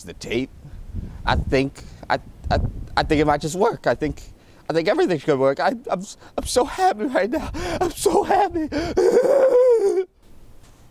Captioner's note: shrieks of excitement